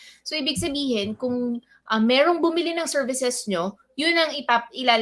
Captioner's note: speaks in Filipino